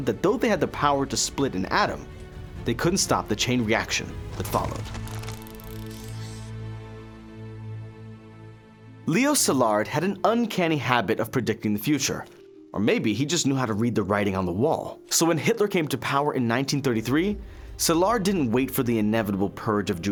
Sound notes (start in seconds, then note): 5.0 text clicking; 5.2 subtle dramatic music